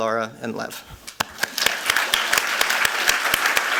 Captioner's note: applause